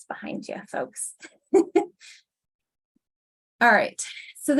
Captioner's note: chuckles